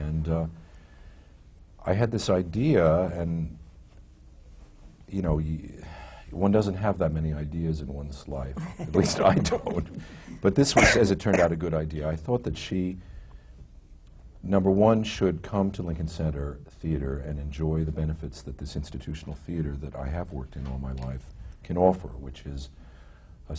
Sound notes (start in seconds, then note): 8.6 laughs